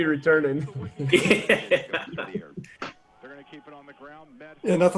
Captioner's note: all laugh